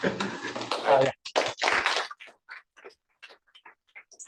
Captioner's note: applause